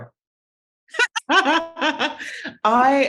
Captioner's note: laughing